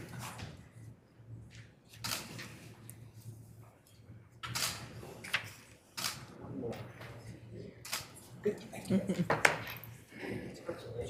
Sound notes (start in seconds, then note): 6.0 camera clicking; 8.8 member laughs